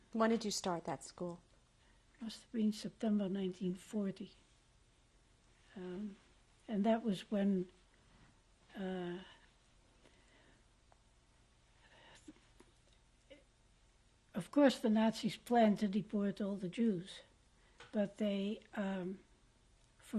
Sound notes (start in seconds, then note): 3.7 pauses for 3 seconds; 9.4 pauses for 7 seconds